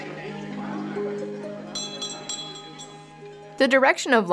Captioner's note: glass clinking